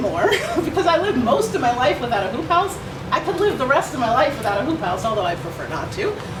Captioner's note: laugh